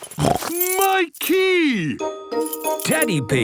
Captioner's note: snorts